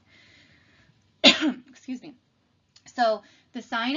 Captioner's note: cough